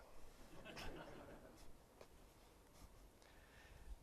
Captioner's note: laughter